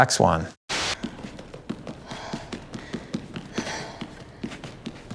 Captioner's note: feet pattering